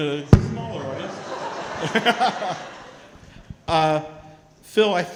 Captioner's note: crowd chattering